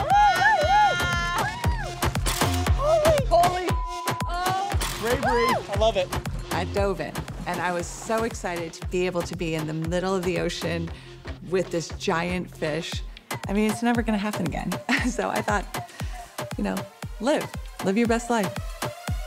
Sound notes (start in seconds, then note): 0.0 women cheering; 2.2 camera shutters